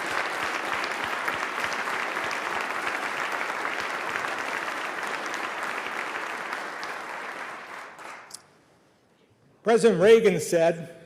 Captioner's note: applause